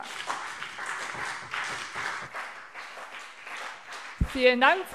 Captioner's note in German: Beifall